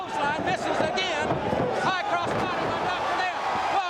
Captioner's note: crowd cheering